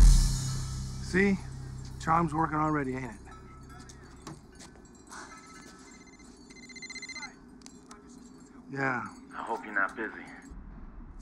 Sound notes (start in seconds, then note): 2.9 phone rings